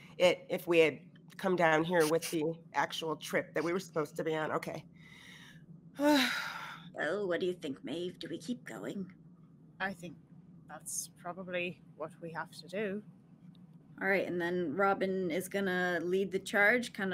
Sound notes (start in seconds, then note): 6.0 sighs